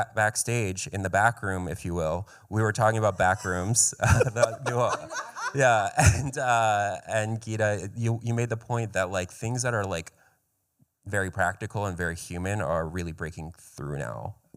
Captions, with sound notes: Backstage in the backroom, if you will, we were talking about Backrooms. [laughter] Gita, you made the point that things that are very practical and very human are really breaking through now.